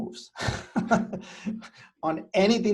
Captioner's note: chuckles